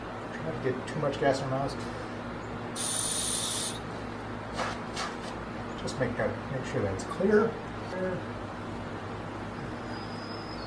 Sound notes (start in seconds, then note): 2.7 air whistling